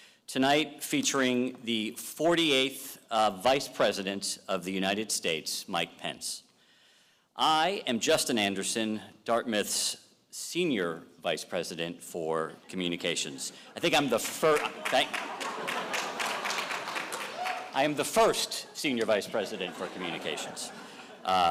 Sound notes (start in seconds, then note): 13.5 audience applauding and laughing